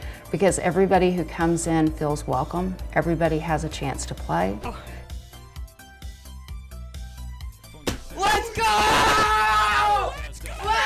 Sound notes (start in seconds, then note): 7.8 thuds